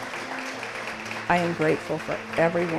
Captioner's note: applause